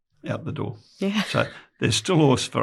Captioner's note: laughs